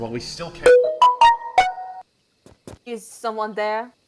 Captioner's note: Samsung Notification plays